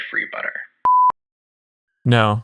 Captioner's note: beep